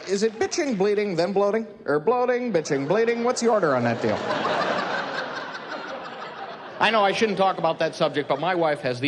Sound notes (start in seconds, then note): 5.0 laughing